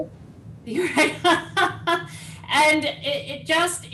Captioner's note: laughter